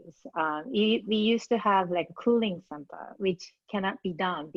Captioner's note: faintly speaking